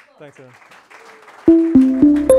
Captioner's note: audience applauds; upbeat music